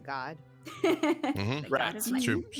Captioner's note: laughing